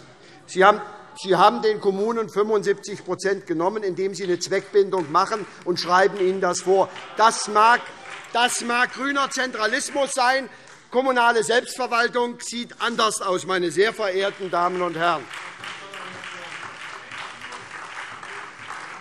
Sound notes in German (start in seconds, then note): 7.1 Beifall SPD - Zurufe: Falsch!